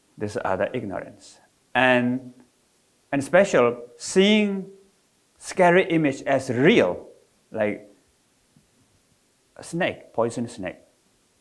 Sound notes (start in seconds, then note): none